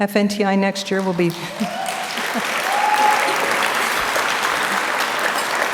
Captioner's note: audience applauds